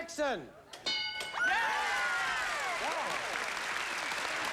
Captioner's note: applause